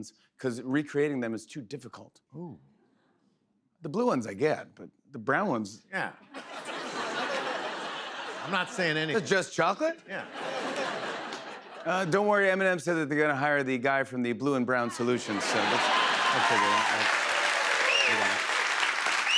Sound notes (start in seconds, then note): 6.3 laughter; 15.2 laughter, cheers, applause; 19.1 applause